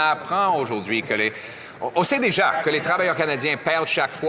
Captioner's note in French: voix de l'interprète